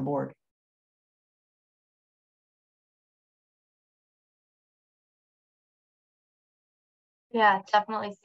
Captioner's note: silence